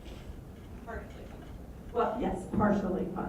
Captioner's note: voiceover